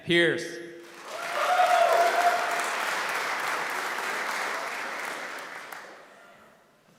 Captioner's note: applause